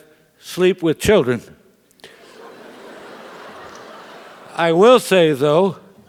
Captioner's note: laugh